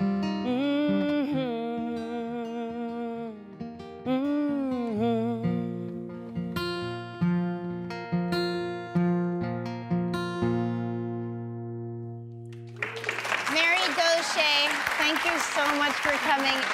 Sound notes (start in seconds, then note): 7.4 guitar music; 12.5 applause